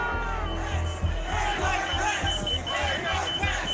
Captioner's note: crowd booing; crowd chanting